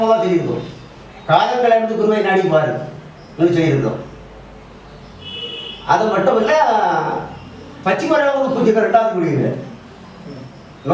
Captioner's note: birds